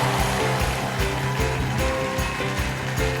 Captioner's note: applause